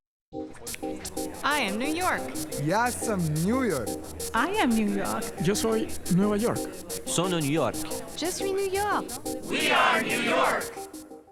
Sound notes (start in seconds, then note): 6.5 Spanish; 8.9 French